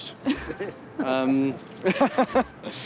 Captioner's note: Sophie laughs; Andrew laughs